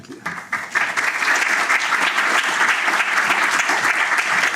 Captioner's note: applause